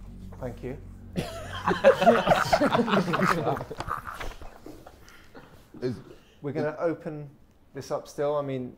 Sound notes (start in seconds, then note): 1.1 Sidemen laughing